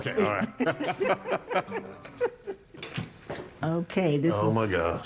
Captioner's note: couple laugh